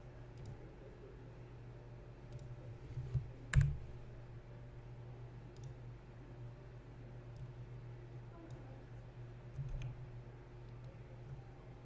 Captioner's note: clicking, typing